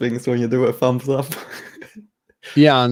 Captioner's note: chuckling